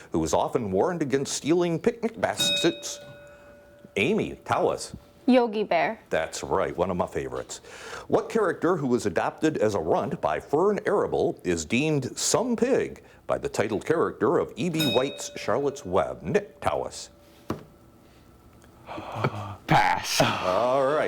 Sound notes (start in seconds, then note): 2.3 bell dinging; 14.7 bell dinging